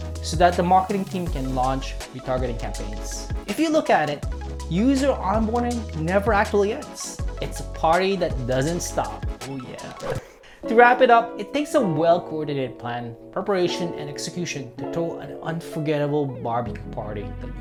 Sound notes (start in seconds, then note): 9.8 whooshing sound; 11.0 soothing music